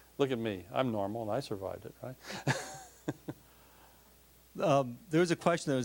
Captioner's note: laughing